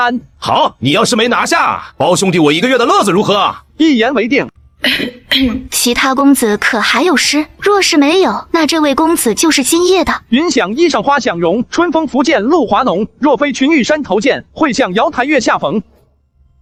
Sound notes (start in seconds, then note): 4.8 clears throat